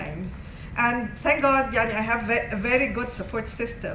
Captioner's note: non-english